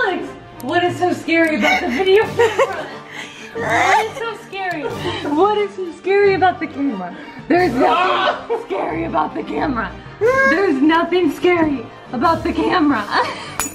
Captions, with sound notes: - Alex! What is so scary about the video camera? (both laughing) What is so scary? What is so scary about the camera? - Stop! - There's nothing scary about the camera. There's nothing scary about the camera.